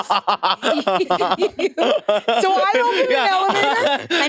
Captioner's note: participants laughing